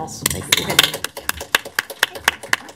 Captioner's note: applause